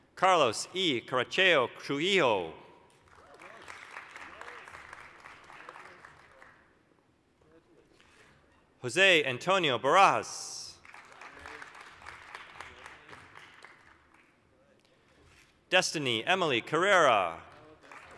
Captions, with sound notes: Carlos E. Caracheo-Trujillo. (applause) Jose Antonio Barajas. (applause) Destiny Emily Carrera.